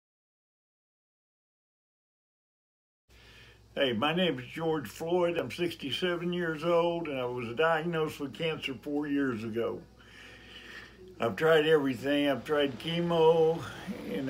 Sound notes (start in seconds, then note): 7.1 takes deep breath